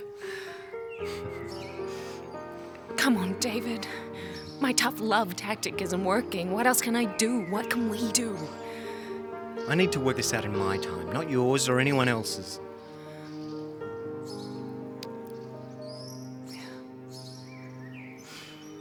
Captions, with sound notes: Through madness and in health. (both chuckling softly) Come on, David. My tough love tactic isn't working. What else can I do? What can we do? - I need to work this out in my time, not yours or anyone else's.